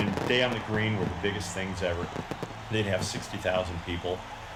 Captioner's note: fireworks pop